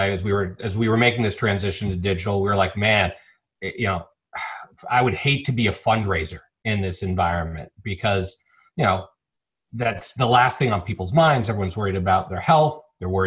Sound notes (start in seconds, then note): 4.3 sighs